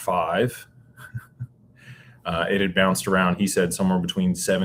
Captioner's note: laughter